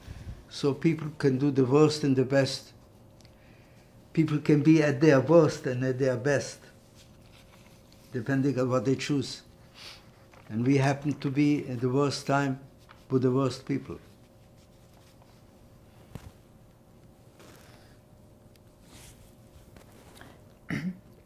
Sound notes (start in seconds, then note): 6.7 wiping nose; 14.4 pauses 6 seconds